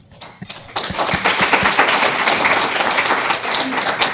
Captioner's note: applause